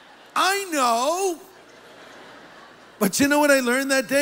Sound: laughter

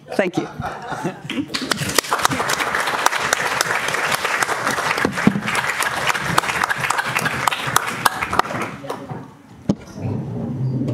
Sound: applause

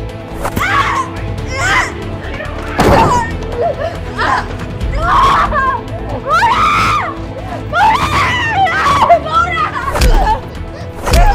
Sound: woman's creaming

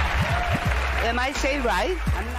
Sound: cheers and applause

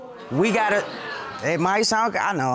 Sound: audience exclaims

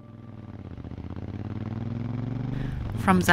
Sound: bike roaring

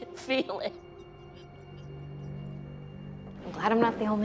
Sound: sobbing

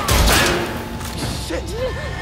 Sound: gunshots

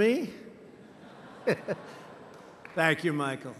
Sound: laughter

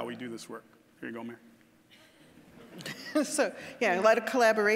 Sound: audience chuckling

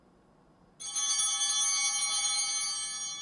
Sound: altar bell chiming

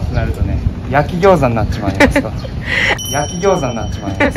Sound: laughter

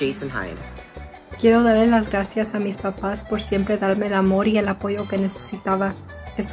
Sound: speaks in foreign language

